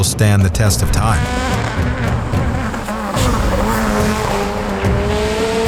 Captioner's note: car engine revving